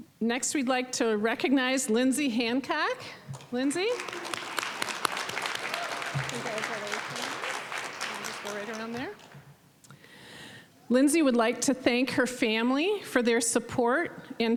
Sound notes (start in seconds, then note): 3.6 applause, cheering